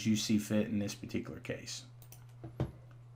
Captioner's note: mouse clicking